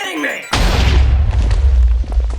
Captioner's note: explosion